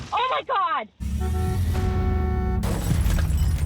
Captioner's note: horn honks, glass shatters